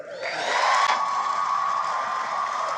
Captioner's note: cheering and applause